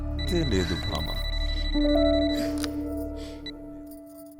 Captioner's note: gasping